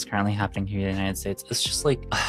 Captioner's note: sigh